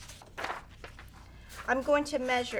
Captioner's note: paper rustling